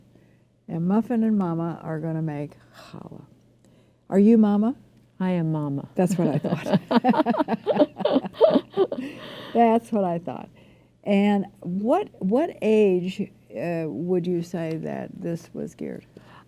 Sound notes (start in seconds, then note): 6.1 laughter